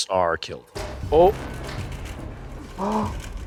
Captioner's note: metal clangs; puffs